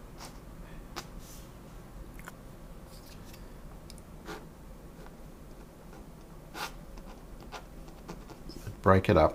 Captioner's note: silence